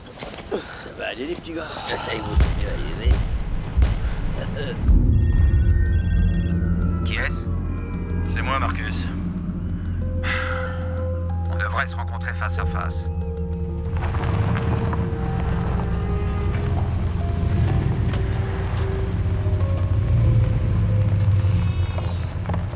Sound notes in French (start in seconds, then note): 4.9 Le téléphone sonne; 7.8 au téléphone